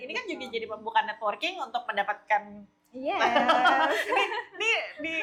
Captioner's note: laugh